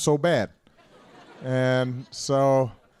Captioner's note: laughter